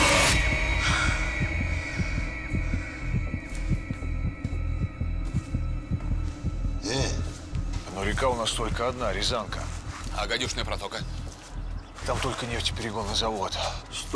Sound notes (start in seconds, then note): 1.0 heart beating